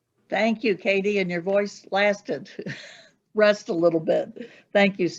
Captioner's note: chuckling